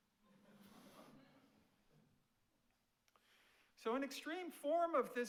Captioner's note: audience laughs